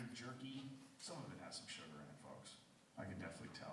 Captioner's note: voiceover